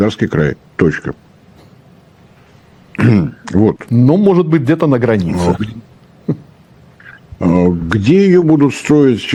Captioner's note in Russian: откашливается